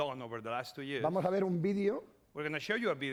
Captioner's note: speaking spanish